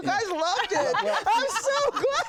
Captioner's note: laughter